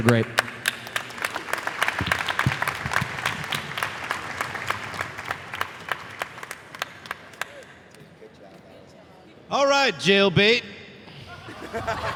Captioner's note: applause